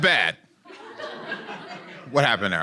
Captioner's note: audience laughing